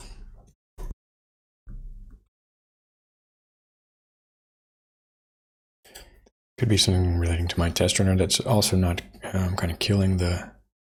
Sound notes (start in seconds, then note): 1.2 blank Audio